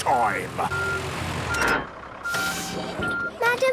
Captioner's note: beeping, hydraulic noises